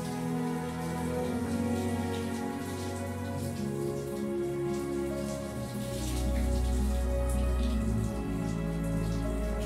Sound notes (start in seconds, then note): 2.0 gentle music continues; 4.7 water pattering; 6.0 dreamy music